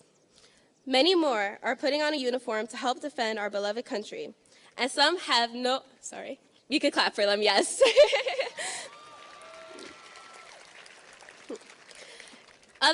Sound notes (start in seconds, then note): 8.3 laughing; 8.7 audience cheers and applauds